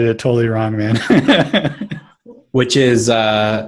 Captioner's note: laughter